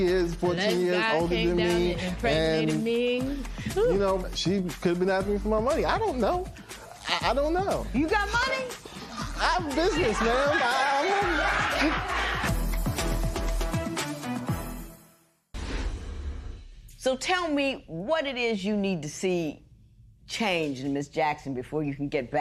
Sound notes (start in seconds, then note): 9.8 laughter